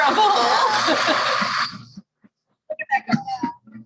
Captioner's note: blender going